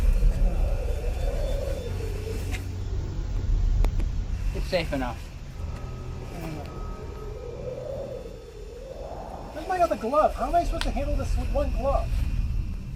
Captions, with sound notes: It's safe enough. (wind whistling) (slow suspenseful music) - Where's my other glove? How am I supposed to handle this with one glove?